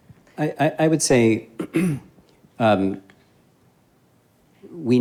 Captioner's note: clears throat